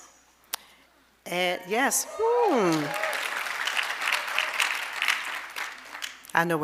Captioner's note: audience applauding